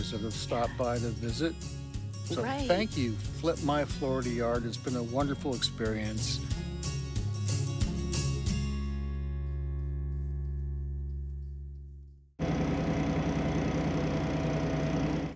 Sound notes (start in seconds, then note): 6.6 upbeat lively music; 12.4 machine whirring